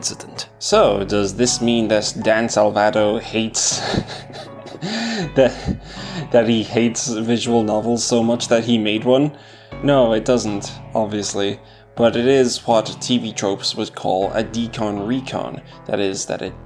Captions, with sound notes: So does this mean that Dan Salvato hates- (laughs) That he hates visual novels so much that he made one? No, it doesn't, obviously. But it is what TV Tropes would call a decon-recon; that is, that it